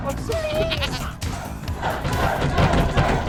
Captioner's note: goat bleating; class chanting